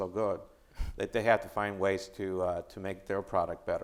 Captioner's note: chuckling